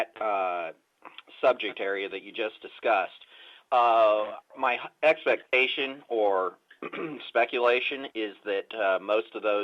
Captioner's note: clears throat